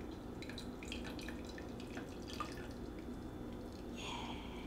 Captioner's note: tea pouring